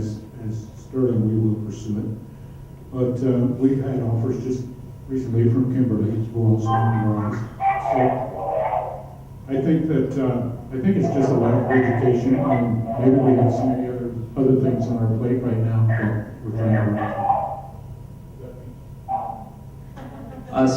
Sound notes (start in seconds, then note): 6.6 loud intercom interruption; 15.1 loud intercom continues